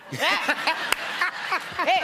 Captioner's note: laughter